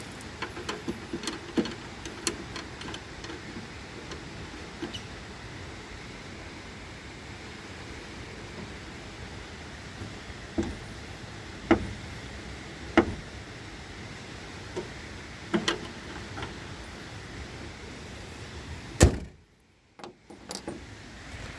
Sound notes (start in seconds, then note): 18.9 car hood closes